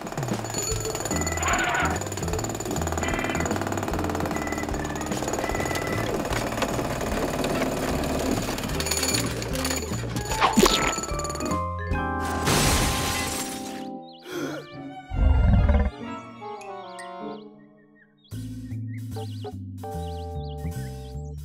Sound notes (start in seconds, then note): 0.1 jackhammering; 10.3 splat; 12.3 crash; 14.2 wheezes; 15.1 tummy grumbling